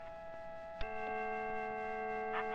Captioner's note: clock chime